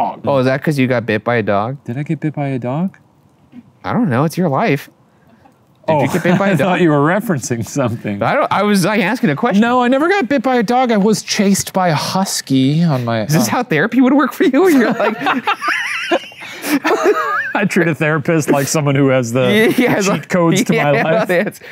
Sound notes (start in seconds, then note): 14.6 both laughing; 19.4 laughs